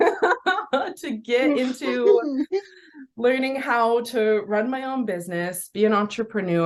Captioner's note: both laugh